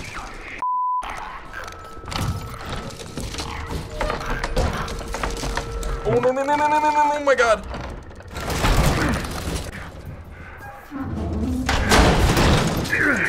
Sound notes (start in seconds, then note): 2.1 Bloater growls; 3.7 door rattles and creaks loudly; 11.5 Joel grunts in exertion; 11.7 loud bang